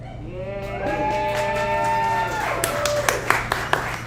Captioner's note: audience applauds